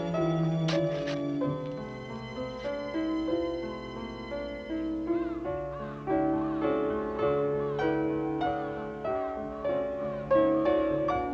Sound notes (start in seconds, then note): 4.6 crows squawking